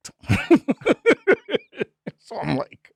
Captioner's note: laughing